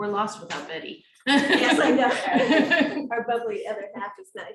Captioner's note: laughing